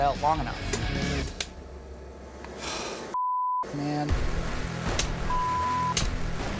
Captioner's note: sigh